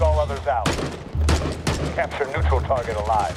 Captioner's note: gunshots booming